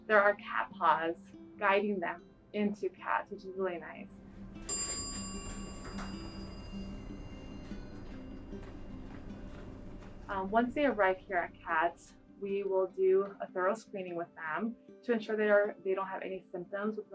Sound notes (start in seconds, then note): 4.3 elevator dinging